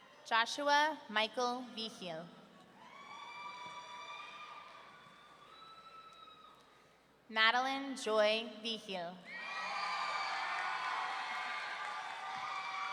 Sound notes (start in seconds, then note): 2.9 audience cheering; 9.3 audience cheering